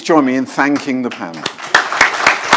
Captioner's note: applause